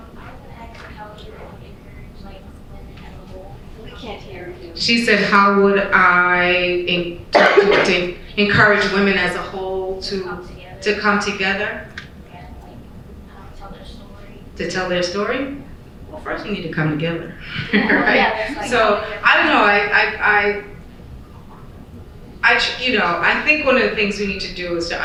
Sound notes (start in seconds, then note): 7.3 coughing; 17.4 chuckle